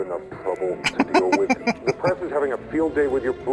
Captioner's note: laughing